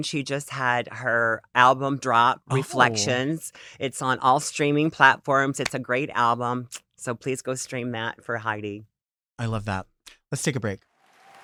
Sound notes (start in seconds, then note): 6.0 claps